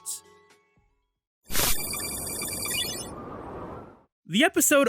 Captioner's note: digital typing